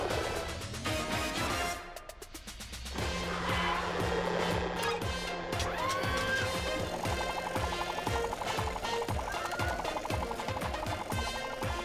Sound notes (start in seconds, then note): 2.8 upbeat music; 5.6 whirring